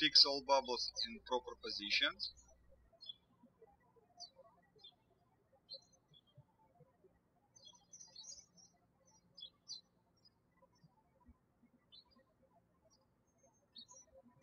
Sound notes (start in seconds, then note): 3.5 birds chirping